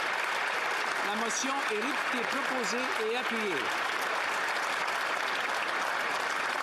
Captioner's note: speaking French; applause